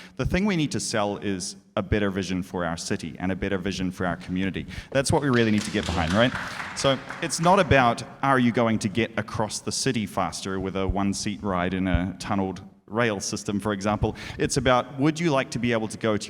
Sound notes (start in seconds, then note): 5.1 audience applauds